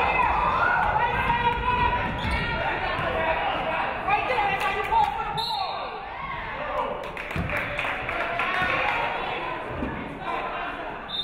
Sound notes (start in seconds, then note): 0.1 audience cheering; 6.8 audience clapping